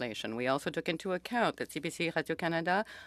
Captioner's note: speaking French